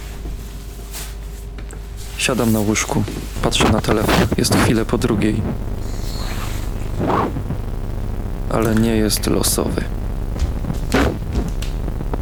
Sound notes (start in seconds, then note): 10.4 sound of walking on glass